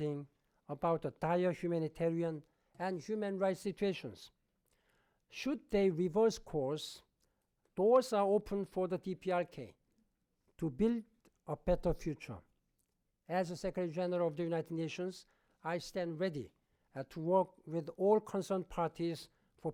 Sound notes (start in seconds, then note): none